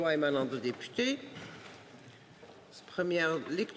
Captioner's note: speaking French